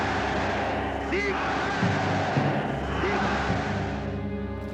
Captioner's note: chanting